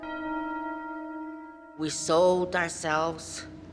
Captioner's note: church Bells